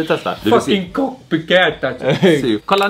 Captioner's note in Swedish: tillgjord röst